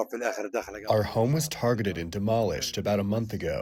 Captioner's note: through translator